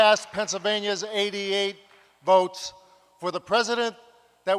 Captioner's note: applause